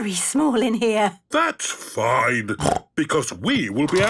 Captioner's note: snorts